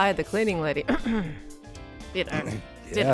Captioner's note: ahem